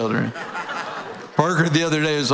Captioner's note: audience laughing